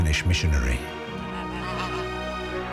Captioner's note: honking